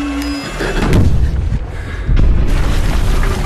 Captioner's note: explosion booms; gravel crunching